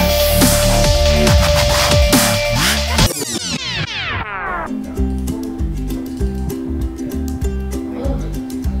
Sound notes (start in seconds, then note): 3.0 rewind sound